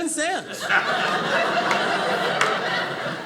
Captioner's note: audience laughing